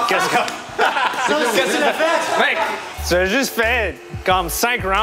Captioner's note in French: rires